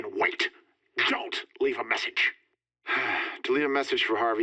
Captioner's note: sighs